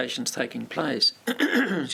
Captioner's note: clears throat